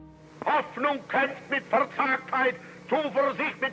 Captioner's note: speaking German